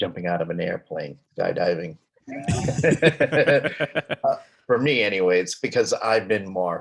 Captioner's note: both laughing